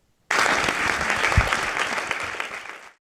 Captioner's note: audience applauding